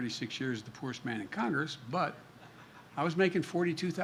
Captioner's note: laughter